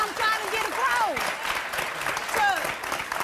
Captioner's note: applause